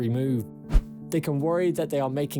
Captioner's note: screen swishes